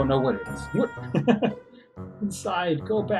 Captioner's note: chuckles